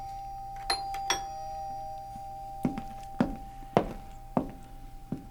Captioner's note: doorbell ringing; footsteps approaching